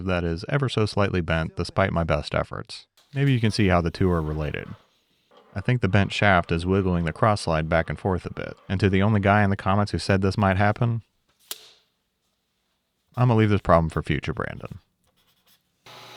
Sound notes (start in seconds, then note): 11.4 hand slapping